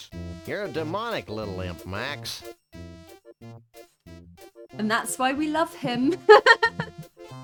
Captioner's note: laughing